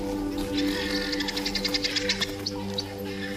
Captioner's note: squawking